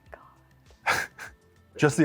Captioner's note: laughs